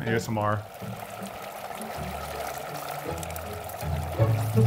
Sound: nitrogen bubbling

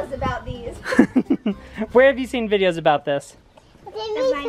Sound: chuckles

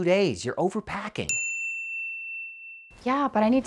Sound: bell dings

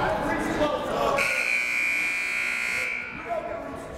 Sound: buzzer

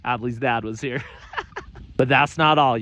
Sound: laughing

